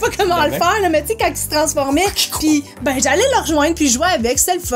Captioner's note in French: rires